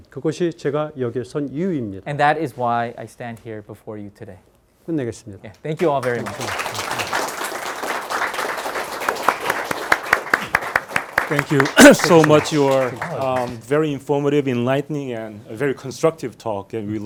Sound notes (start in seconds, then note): 0.1 speaking in Korean; 5.0 speaking in Korean; 5.8 students applauding